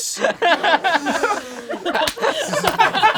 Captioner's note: all laugh